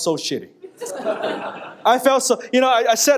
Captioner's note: audience laughing